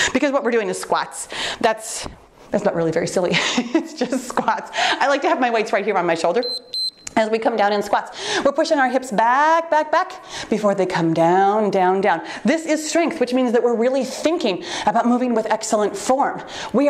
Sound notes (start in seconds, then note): 3.4 chuckles; 6.4 timer beeps